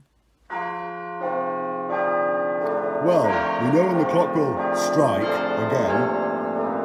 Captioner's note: clock chimes